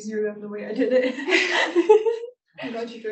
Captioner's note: laughter